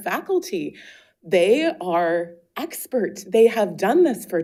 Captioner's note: none